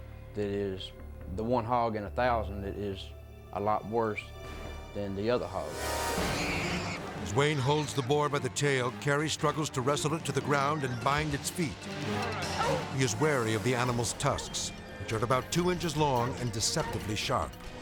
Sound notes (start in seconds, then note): 6.0 boar squealing